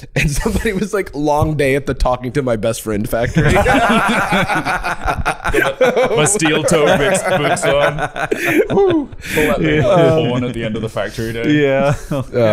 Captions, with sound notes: And somebody was like, "Long day at the talking-to-my-best-friend factory." - (all laughing) - My steel-toed boots on. "Hoo!" Pull that horn at the end of the factory day.